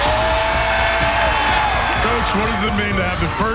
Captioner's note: cheering